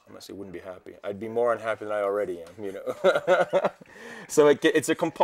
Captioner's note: chuckles